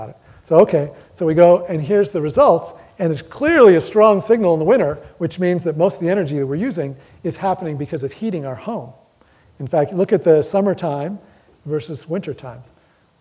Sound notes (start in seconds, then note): none